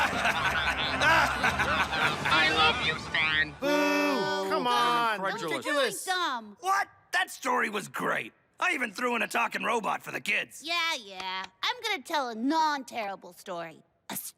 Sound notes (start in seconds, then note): 0.0 all laughing; 3.6 overlapping jeers